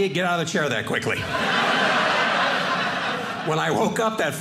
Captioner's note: audience laughing